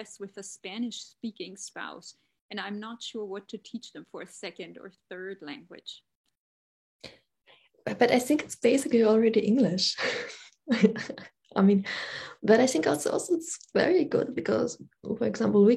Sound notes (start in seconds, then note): 10.2 laughs